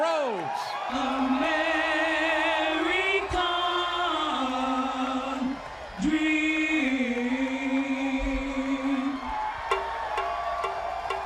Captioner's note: crowd cheering